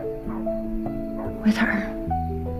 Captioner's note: voiceover